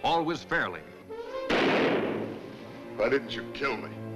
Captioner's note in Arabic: صوت انفجار طلقة نارية